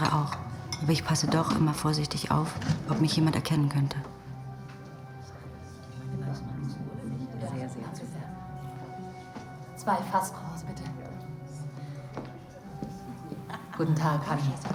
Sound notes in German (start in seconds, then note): 12.7 Schritte